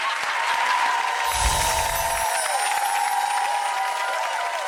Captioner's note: crowd cheers